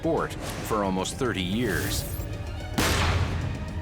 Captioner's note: gun shot